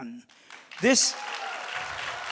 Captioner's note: crowd cheering